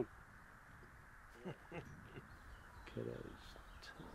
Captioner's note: chuckling